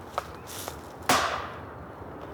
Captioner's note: banging sound